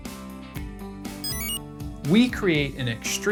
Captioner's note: enter chime